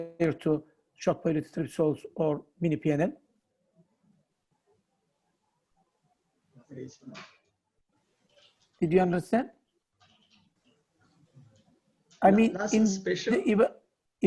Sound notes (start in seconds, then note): 7.2 professor speaking faintly